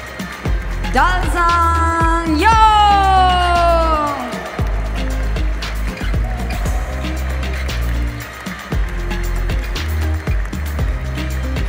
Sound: applause; applause

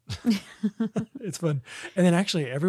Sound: laughs

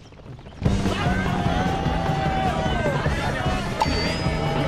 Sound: crowd

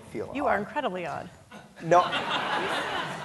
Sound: audience laughing

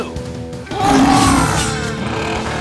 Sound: roaring

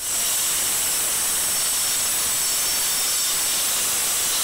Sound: metal grinding

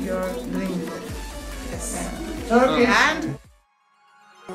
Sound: Turkish

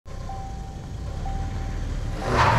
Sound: seatbelt alarm

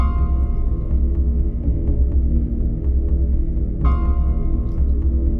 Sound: cauldron bubbling

